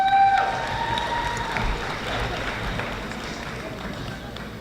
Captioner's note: audience applauding